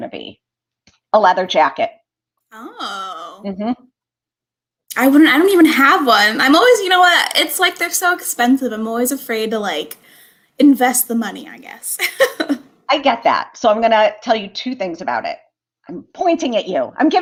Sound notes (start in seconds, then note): 12.0 laughter